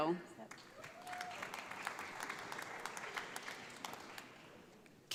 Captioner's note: audience applauds